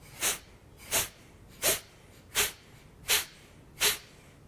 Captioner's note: sharp exhaling